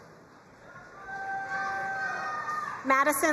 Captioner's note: crowd cheering and applauding